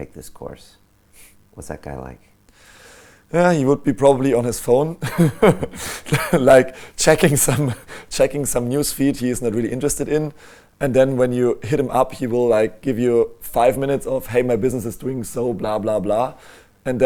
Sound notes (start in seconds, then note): 5.0 laughs